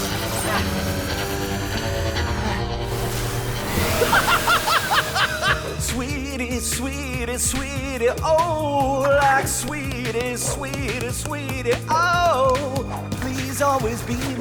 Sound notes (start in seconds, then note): 1.8 laughs maniacally